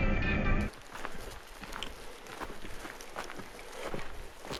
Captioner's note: footsteps